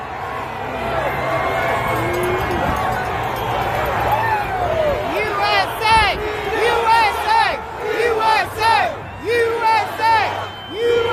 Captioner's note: chanting